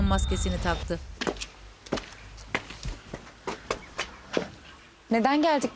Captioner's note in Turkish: Ayak sesi